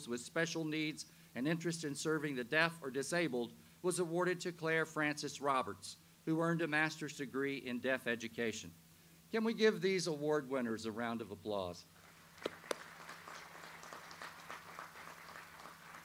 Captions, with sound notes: with special needs and interest in serving the deaf or disabled was awarded to Claire Frances Roberts, who earned a master's degree in Deaf Education. Can we give these award winners a round of applause? (audience applauds)